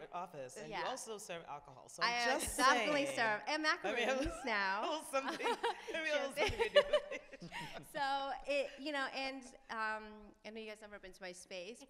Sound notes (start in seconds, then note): 6.3 laughs